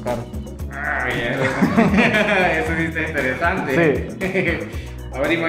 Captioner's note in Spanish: Risas